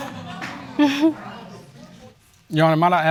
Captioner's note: audience laughing; giggles